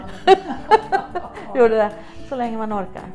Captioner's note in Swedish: skratt